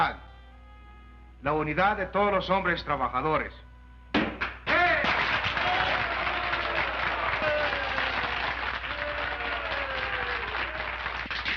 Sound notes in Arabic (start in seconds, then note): 4.2 تشارلي يضرب سطح الطاولة; 4.4 الجمهور يهتف ويصفق